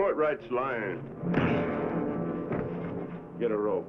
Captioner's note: thuds